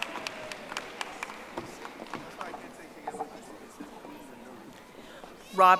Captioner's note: audience applauding